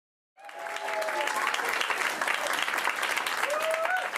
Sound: audience applauding

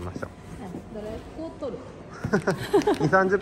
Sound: laughs

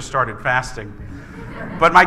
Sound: laughing

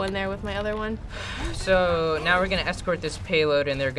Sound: sighs

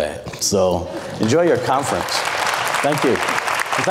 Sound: applauds

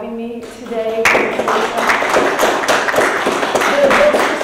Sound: audience applauding

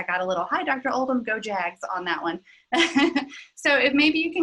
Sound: laughs

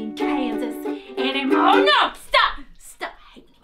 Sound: spoken as Daisy

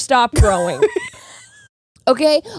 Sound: laughing

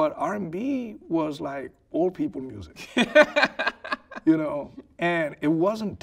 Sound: laughing

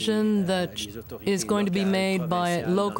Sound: speaking French

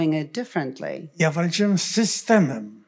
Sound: foreign language

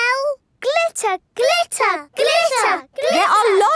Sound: chanting

